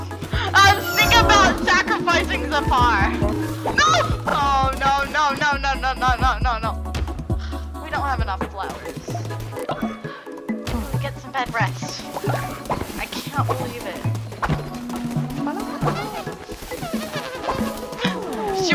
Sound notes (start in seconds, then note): 7.4 sighs; 15.0 laughing to self, plottingly